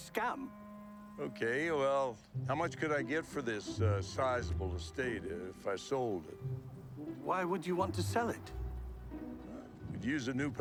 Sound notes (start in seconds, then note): none